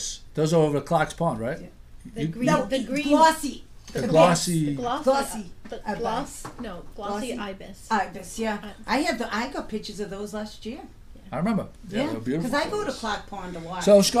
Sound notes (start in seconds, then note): 0.0 voiceover; 2.0 voiceover; 6.6 voiceover